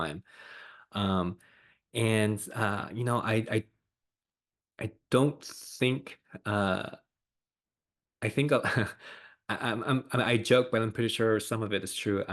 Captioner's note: laughs